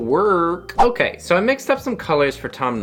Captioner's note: whoosh